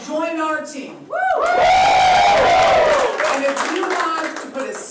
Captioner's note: applause